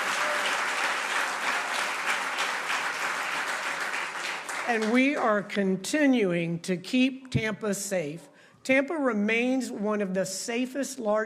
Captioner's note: applause